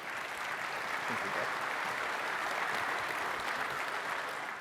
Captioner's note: applause